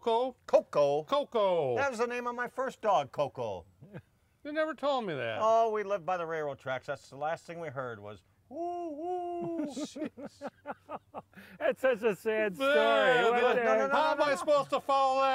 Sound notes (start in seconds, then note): 9.1 laughs